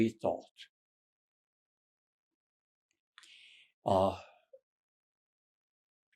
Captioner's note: pauses 13 seconds